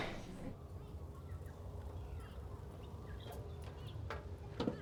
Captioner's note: birds chirping